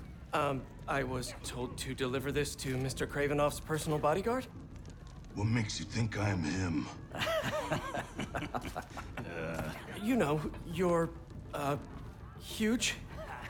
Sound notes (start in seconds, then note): 7.1 laughs